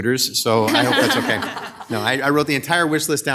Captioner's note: audience laughing